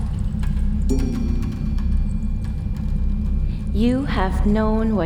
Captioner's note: bell dings